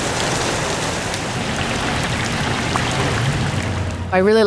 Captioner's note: heavy rain